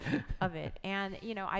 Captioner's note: laughing